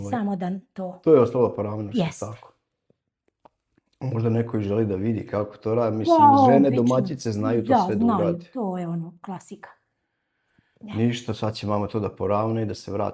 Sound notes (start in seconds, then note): 6.2 coughs